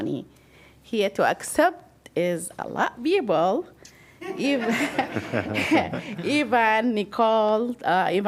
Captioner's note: laughter